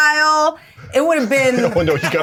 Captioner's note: Bobby laughing